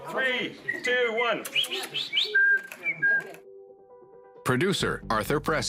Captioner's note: whistling